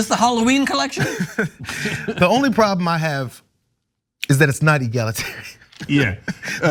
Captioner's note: laugh